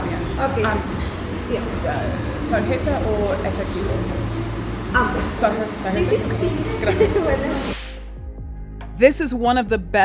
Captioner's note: Spanish